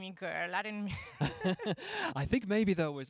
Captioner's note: laughing